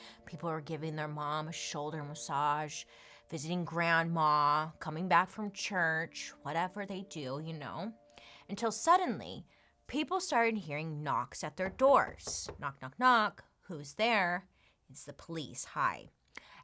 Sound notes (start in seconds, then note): 11.6 knocking